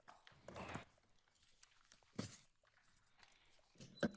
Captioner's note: paper rustling